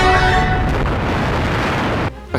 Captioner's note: explosion